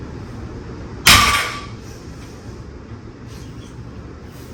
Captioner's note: weight clanks